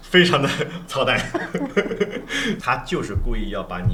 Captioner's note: laughter